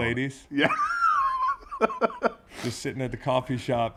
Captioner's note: laugh